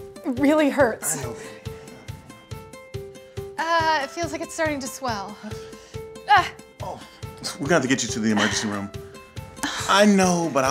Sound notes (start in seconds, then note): 6.8 groans; 9.5 woman sighs